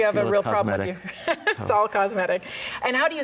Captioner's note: laughs